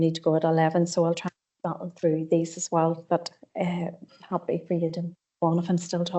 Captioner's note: audio distorts 40.28